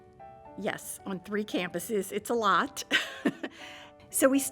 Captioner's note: chuckles